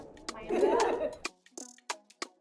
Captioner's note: laughs